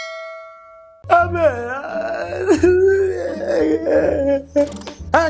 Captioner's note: crying